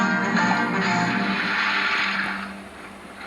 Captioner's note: splash